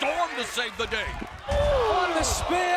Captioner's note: exclaims